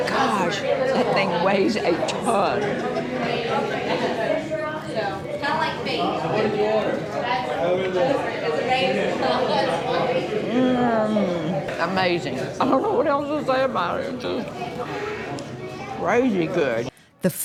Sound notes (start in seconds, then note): 3.1 customers chattering